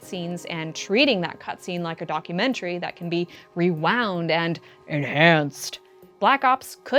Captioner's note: dramatic CSI voice